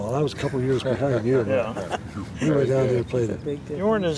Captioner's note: laughter